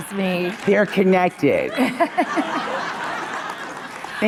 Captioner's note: Monica and audience laughing